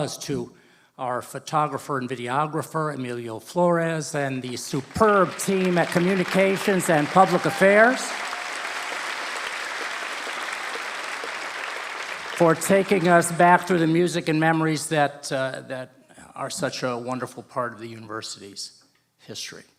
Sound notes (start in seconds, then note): 9.6 applause